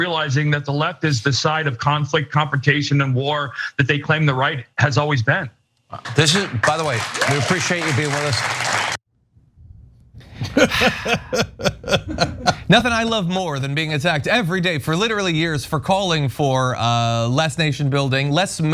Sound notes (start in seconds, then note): 6.0 applause; 10.2 laugh